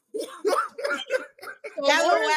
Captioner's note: laughing